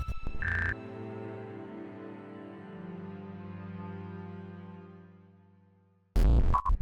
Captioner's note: graphics buzzing; somber music; graphics bleeping